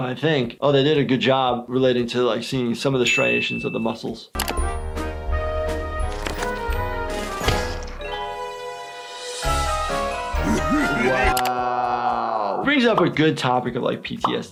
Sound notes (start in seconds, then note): 4.5 playful music; 10.3 Flippy evil laughing